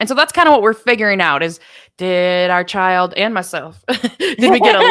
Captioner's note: both laughing